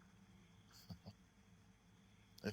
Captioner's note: solo chuckles